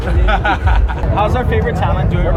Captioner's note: laughter